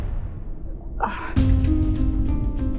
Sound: sighing

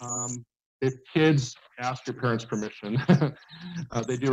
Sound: laugh

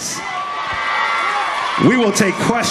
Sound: crowd cheers

